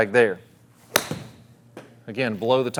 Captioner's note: club whacks